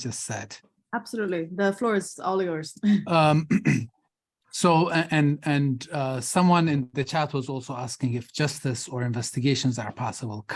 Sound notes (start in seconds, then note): 3.0 clears throat